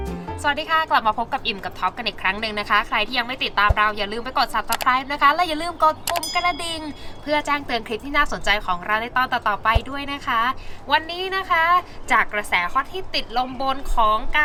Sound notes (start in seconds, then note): 5.6 the bell